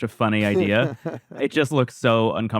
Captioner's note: laughs